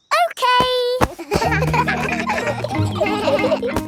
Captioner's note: kids laughing